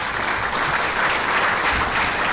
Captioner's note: clapping